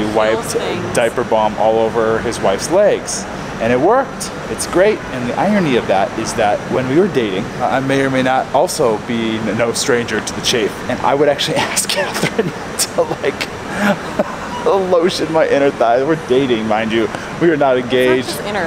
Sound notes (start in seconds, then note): 14.1 laughing